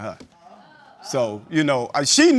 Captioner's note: audience murumrs